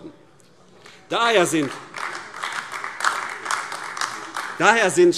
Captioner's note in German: Beifall AfD